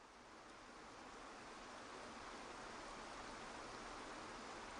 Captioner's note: waterfall trickling